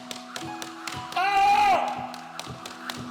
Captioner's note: screams